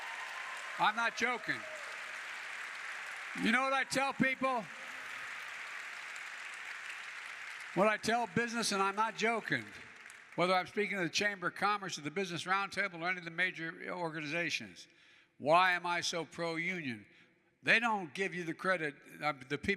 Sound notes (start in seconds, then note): 2.4 applause